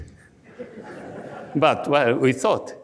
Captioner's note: audience laughs